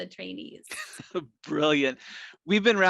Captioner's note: chuckles